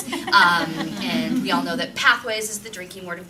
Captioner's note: laughter